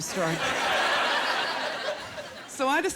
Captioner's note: laughter